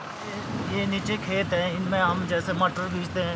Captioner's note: foreign language spoken